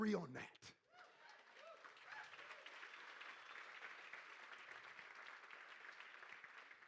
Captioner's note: crowd cheering and applauding